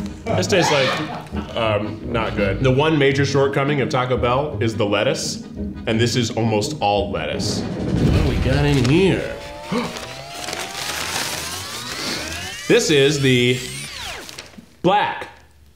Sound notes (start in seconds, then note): 9.5 gasps